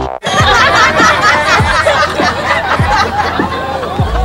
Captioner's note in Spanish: Risas